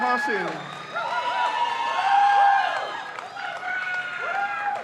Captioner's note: crowd cheers